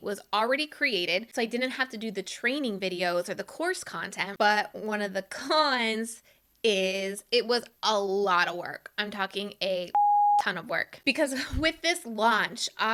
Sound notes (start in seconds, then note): 9.9 beep